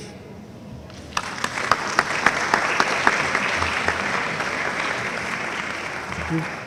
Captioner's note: audience applauding